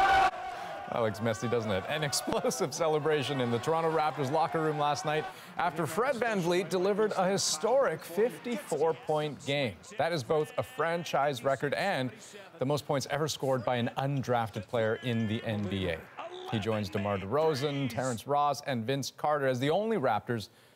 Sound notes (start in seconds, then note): 3.4 cheers and Applause